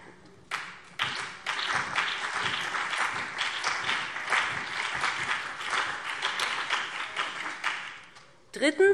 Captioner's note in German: Beifall BÜNDNIS 90/DIE GRÜNEN und vereinzelt CDU